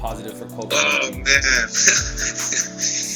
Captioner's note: laughing